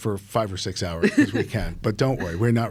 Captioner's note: laughing